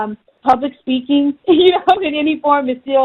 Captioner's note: laughing